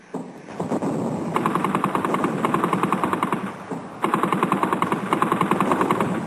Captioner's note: heavy artillery booming; guns blasting